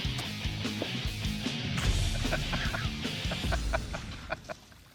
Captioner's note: laughter